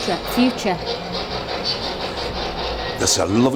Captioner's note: static hisses